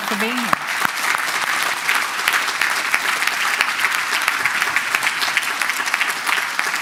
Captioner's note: applause